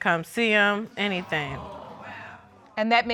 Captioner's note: audience exclaiming